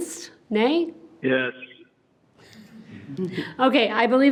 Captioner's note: group chuckles